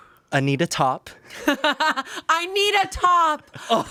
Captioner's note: Amanda laughs